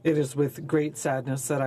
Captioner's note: speaking French